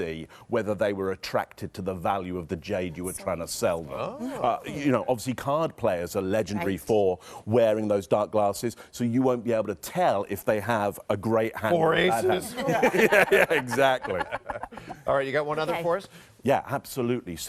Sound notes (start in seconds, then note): 12.4 laughing